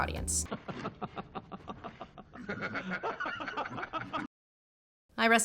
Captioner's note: laughing